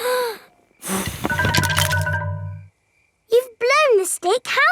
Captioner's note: blowing